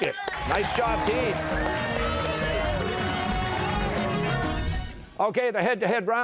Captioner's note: cheers and applause